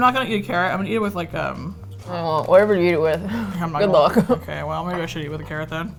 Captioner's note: laughing; laughs